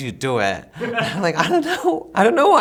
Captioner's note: interviewer laughs